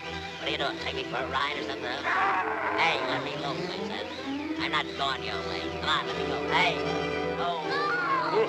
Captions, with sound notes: What are you doin', takin' me for a ride or somethin'? (bird squawks) Hey, let me go, please, then. I'm not goin' your way. Come on, let me go. Hey! Oh. - Oh!